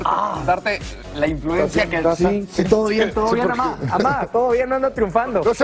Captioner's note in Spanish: risas